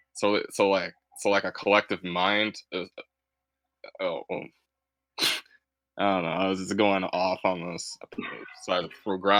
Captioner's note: laughs